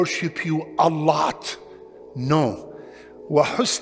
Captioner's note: Arabic